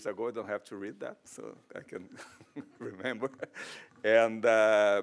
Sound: chuckles

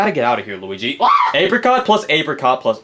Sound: Luigi screams

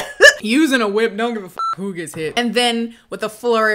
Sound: laughs; beep

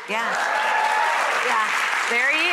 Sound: audience applauding

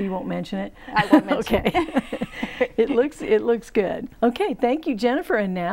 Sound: laughing

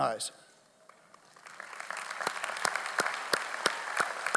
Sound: audience applauds

